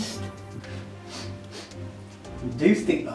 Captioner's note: Bobby sniffing